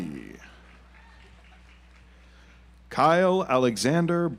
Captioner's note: audience applauds